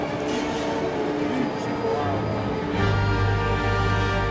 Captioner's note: engine hums; dramatic opera music